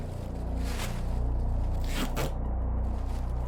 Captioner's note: plastic tarp shuffling; duct tape tear